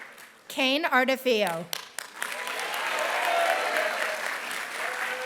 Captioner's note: applause